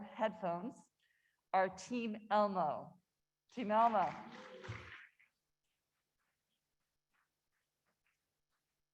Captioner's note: applause